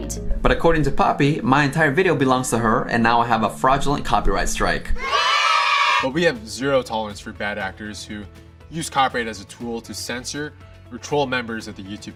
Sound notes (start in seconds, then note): 5.0 cheering sound